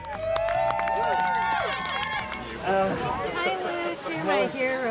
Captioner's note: cheering and applause